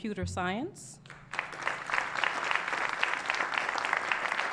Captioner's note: applause